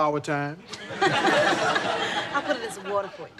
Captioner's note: laughing